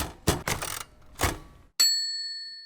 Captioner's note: typewriter whirs; bell dings